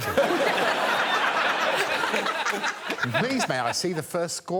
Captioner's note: all laughing